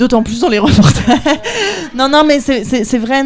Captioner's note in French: rires